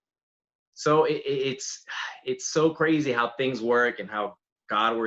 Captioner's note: sighs